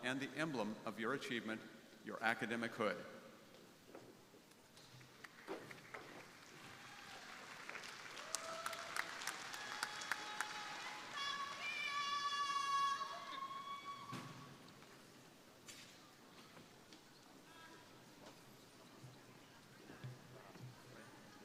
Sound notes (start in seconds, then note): 5.1 crowd applauding